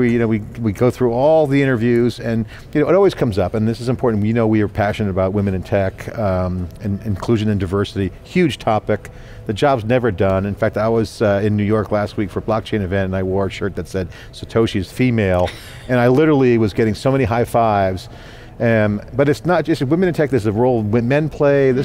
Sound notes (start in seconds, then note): 15.5 laughing